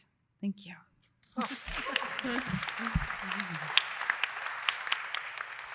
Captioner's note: applause